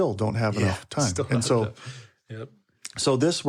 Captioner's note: chuckles